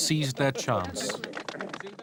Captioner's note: applause